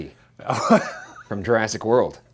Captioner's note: laughs